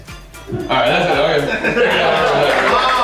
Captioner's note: applause